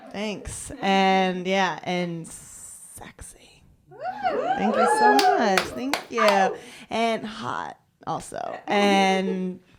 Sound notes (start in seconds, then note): 4.0 cheering